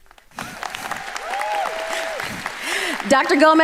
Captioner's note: audience applauding